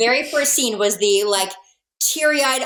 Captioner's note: laughs